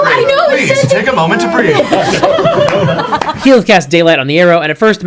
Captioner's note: all laugh